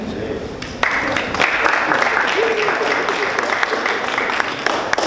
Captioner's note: audience clapping